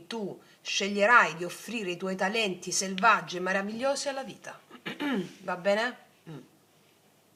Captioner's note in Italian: schiarire la voce